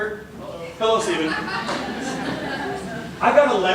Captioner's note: laughter